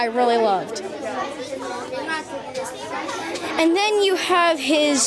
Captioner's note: students chattering